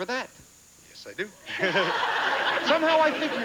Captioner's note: audience laughing